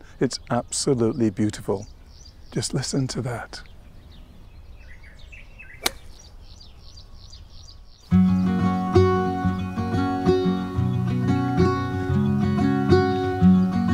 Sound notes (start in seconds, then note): 4.0 birds chirping; 4.0 golf club smacks; 8.0 serene music